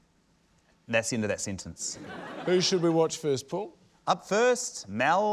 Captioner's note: laughter